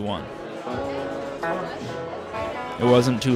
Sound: tranquil music; people chatting

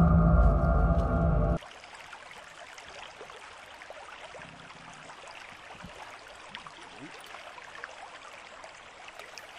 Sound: suspenseful music; creek flowing

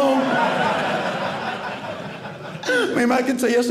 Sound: audience laughing

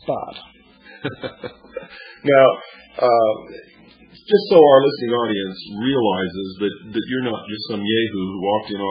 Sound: laughs

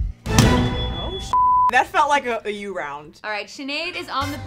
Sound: intense music; beep

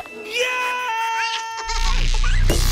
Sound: screaming

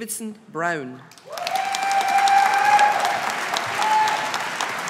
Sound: audience applauding

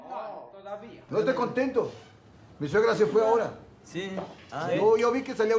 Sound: speaking in foreign language

